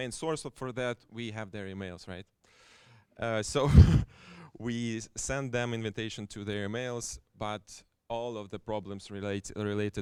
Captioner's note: chuckles